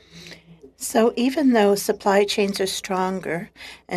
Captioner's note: speaking French